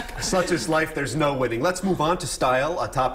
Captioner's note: laughter